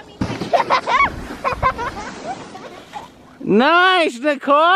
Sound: laughing

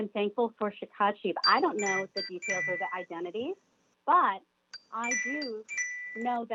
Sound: chime

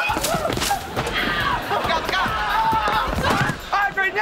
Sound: screaming

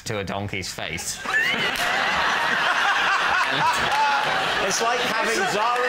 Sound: laughter

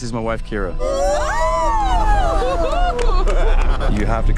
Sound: everyone cheering

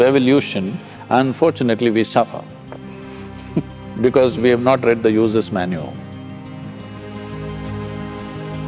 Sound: laughs

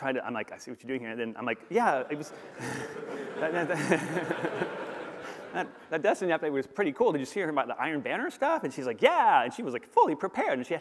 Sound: laughter

